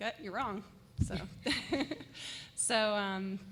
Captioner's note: laughter